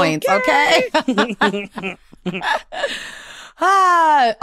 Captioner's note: laughter